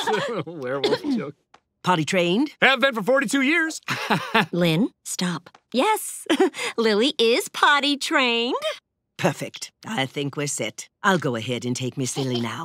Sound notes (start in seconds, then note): 3.8 chuckles